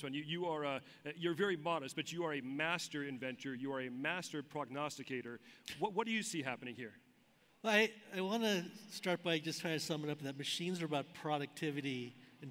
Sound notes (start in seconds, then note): none